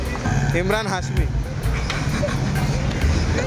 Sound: laughter

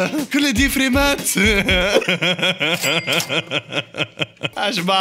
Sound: laughter

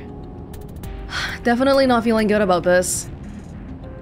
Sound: exhales

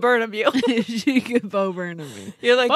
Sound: laughs

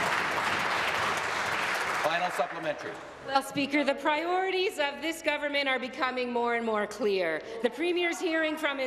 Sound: applause

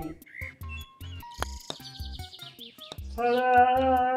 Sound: ball clacking

